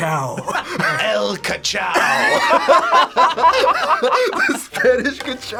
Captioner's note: group laughs; laughs